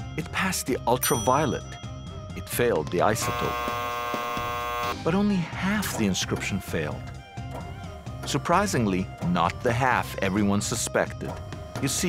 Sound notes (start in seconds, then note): 3.2 cross buzzing